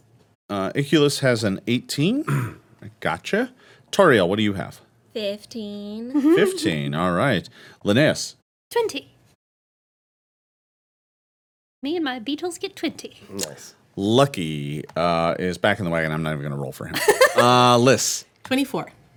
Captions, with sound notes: Ikyulys has an 18, gotcha. Tariel, what do you have? - 15. - 15, all right. Linneus? - 20. Me and my beetles get 20. - Lucky is back in the wagon, I'm not even gonna roll for him. (laughing) Lyss. - 24.